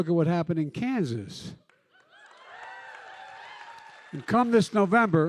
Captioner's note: cheering